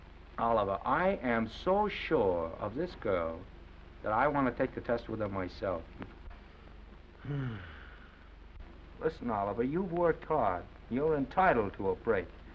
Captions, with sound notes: Oliver, I am so sure of this girl that I want to take the test with her myself. [Oliver sighing] Listen, Oliver, you've worked hard. You're entitled to a break.